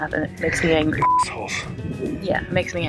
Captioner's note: beep